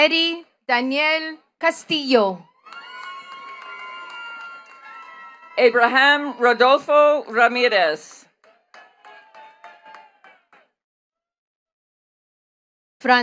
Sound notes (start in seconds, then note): 2.4 attendees cheering and clapping; 8.9 attendees clapping